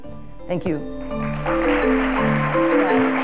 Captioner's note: applause